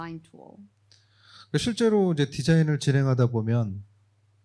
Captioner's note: speaking korean